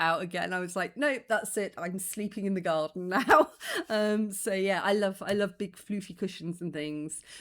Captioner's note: laughing